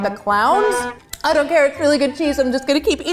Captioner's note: off tune honk